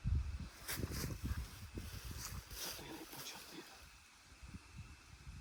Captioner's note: whispering